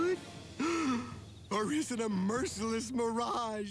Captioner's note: gasps